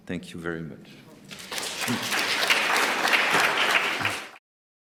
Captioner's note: applause